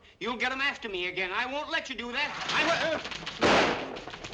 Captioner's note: shade rattling